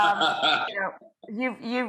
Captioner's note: laughing